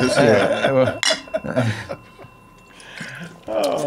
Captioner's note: laughing